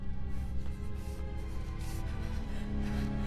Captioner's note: pants